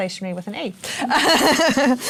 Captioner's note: laughter